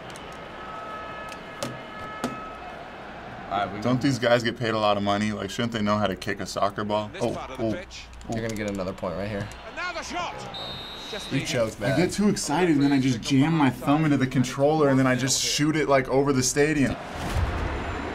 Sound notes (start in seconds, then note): 0.7 air horn blowing; 10.3 ref blowing whistle